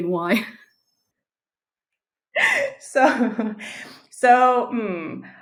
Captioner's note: silent laughing